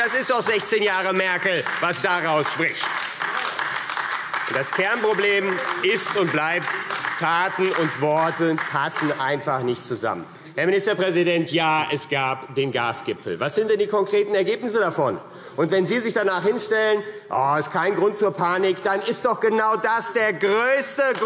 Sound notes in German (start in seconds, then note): 2.6 Beifall AfD